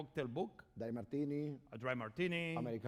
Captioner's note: speaking spanish